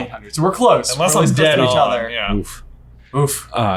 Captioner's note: overlapping chatter